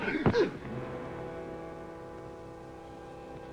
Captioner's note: Mott groans